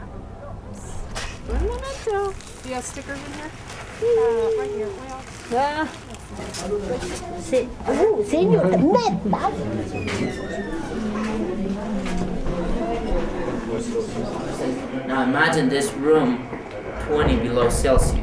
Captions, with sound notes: [speaking Spanish] Do you have stickers in here? Right here. Imagine this room, 20 below Celsius.